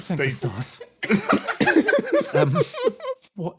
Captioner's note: laughs